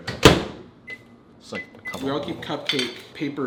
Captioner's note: buttons beeping